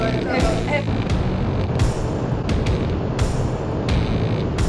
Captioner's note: torch blazing